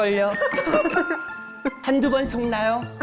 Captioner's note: correct answer sound